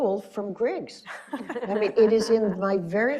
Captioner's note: laughing